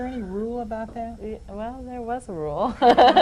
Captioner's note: laughs